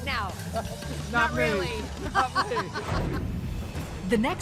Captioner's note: laughter